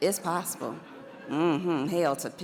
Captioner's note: audience laughs